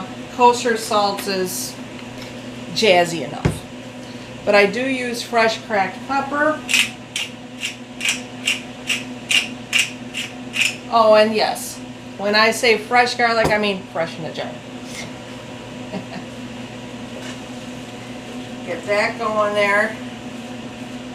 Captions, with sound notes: kosher salt is jazzy enough. But I do use fresh cracked pepper. Oh, and yes, when I say fresh garlic, I mean fresh in a jar. (haha) Get that going there.